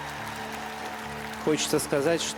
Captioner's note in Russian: ликование